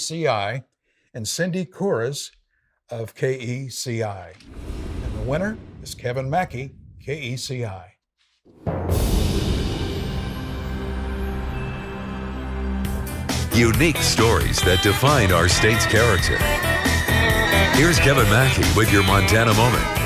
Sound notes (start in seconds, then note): 8.7 wind whooshing; 10.1 soft music